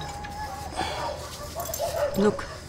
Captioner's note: Sighs